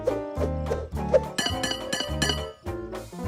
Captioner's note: horseshoes clanging